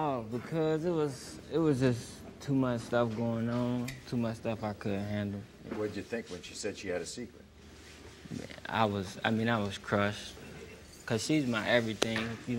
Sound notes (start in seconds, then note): none